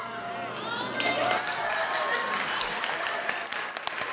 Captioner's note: applauding